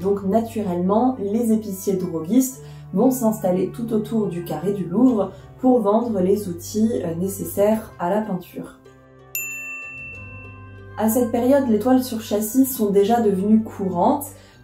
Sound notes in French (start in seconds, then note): 9.3 ding